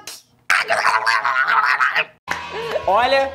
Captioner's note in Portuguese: fazendo sons com a boca